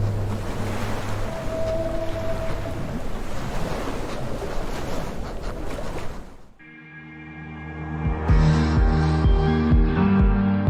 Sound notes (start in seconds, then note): 3.6 waves lap; 6.7 upbeat music